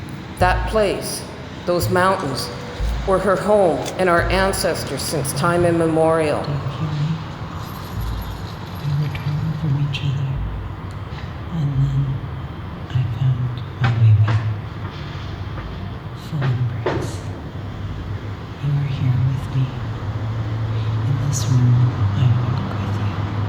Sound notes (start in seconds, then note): 8.8 whispering